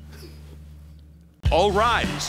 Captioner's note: laughing